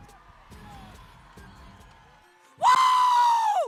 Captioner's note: crowd cheering